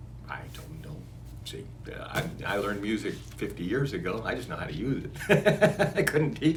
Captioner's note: laughs